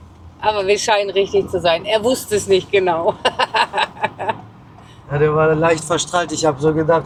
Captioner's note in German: gelächter